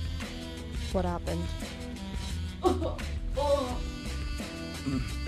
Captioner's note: henchman coughing